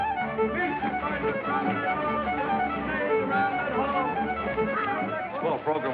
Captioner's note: hollering